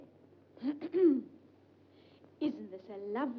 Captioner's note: June clears throat